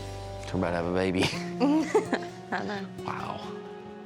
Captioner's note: giggling